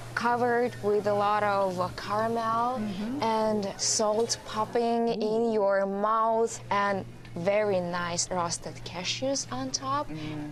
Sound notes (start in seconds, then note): none